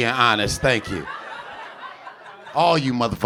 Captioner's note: audience laughing